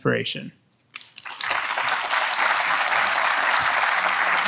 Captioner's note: audience applauds